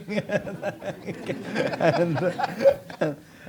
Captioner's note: audience laughs